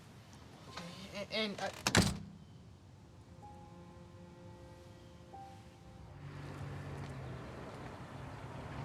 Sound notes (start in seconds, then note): 1.8 door thudding; 3.0 somber music